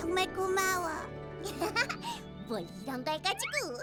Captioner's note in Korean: 웃음